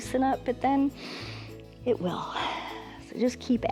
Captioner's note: exhales; inhales